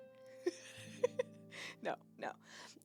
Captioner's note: laughs